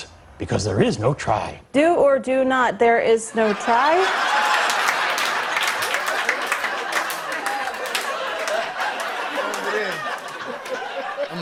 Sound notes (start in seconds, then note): 1.6 robotically; 3.4 laughter and applause